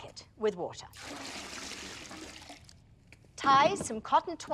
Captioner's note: water splashing